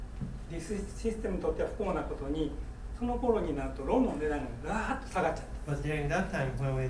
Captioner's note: speaking in foreign language